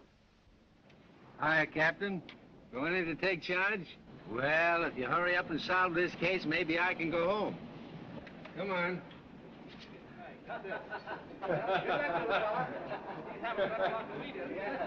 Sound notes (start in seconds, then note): 10.4 reporters laughing